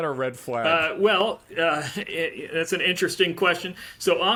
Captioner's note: laughing